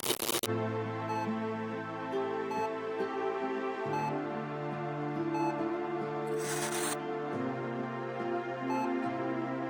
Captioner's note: interference noise; music & Beeping sound /medical device